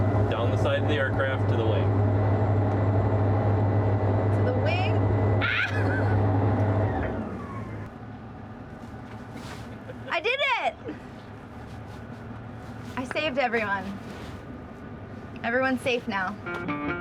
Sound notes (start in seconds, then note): 5.4 laughs